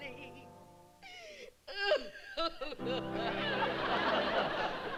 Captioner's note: crying